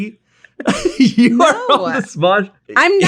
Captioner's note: both laugh